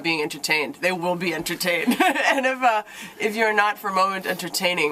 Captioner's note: laughter